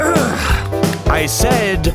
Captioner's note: clears his throat